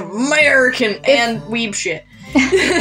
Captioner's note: hick Accent; normal Voice; both Laugh